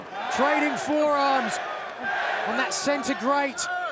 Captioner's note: fans chantinG